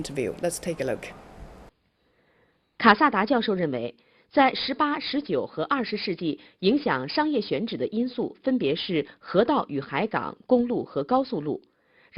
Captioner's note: Chinese audio